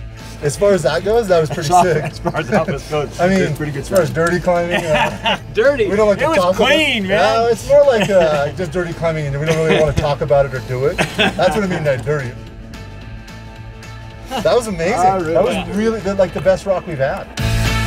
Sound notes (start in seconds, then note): 1.1 laughs; 10.8 laughs